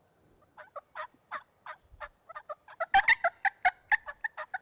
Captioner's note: turkey calls